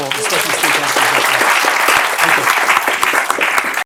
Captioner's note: applause